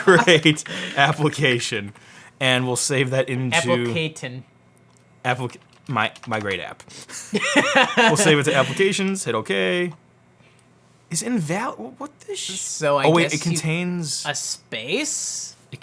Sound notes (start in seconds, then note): 0.0 laughs; 7.2 laughs